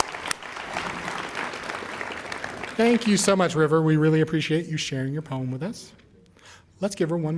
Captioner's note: applause